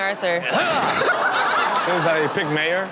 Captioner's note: crowd laughs